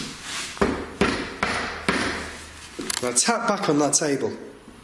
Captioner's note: tapping